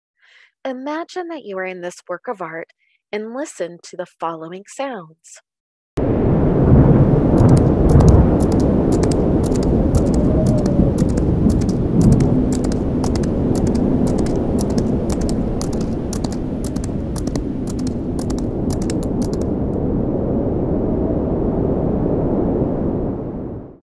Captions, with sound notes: Imagine that you are in this work of art and listen to the following sounds. [strong wind, rain and thunder, and a galloping horse]